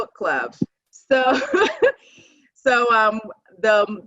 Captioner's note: laughing